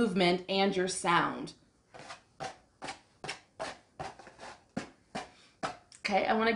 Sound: scratching

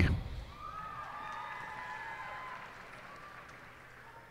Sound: cheers and applause

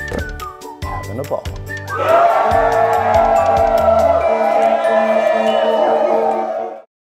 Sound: cheers

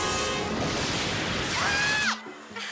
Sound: screaming; laughing

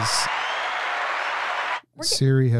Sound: people cheering in the background

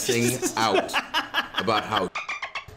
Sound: laugh

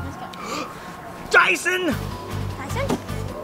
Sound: gasp; fast paced dramatic music

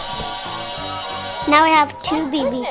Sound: triumphant electronic sound

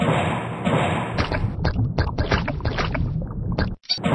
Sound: bubbling

